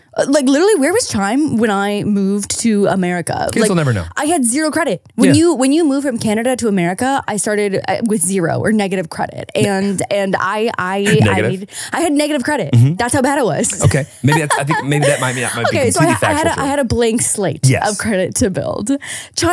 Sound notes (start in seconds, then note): 13.5 laughing